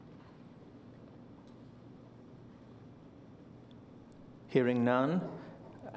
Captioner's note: silence